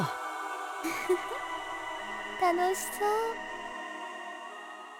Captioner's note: chuckle